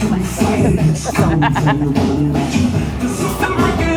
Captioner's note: laughing